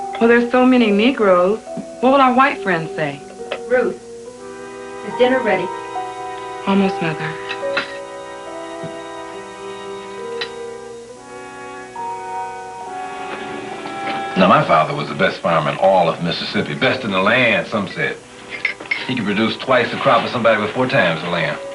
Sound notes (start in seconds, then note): 7.4 dishes clinking; 7.9 uneasy music